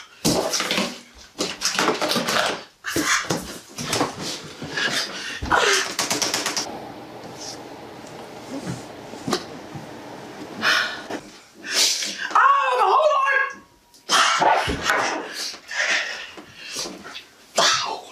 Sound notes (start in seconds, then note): 6.0 clicking on the computer keys; 14.1 breathing heavy, banging things around